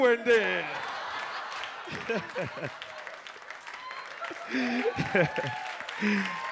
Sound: audience laughs and claps

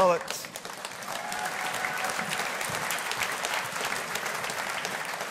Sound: audience applauding

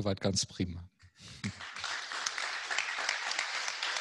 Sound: applause

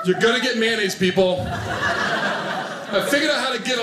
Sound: audience laughing

